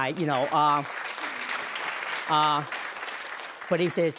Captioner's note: applause